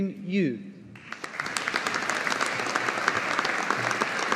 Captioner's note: audience applauding